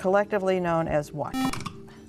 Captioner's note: buzzer